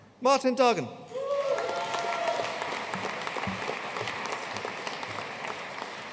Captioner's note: audience cheering and applauding